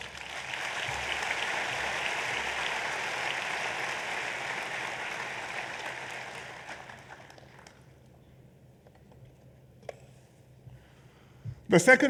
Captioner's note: applause